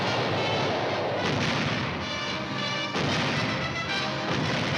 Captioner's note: cannons firing